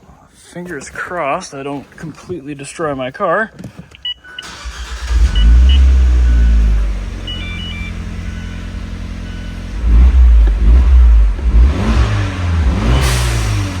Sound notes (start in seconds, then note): 4.4 engine starts and idles